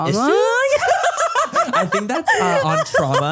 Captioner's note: laugh